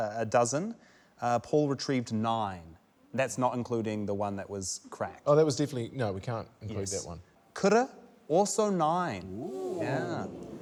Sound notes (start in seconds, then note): none